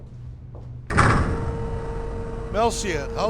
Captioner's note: elevator hums